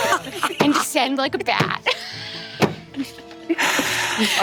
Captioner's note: players laughing; laughs